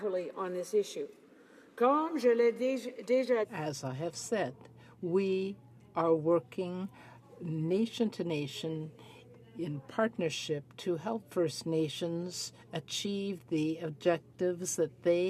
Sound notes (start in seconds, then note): 5.8 speaking French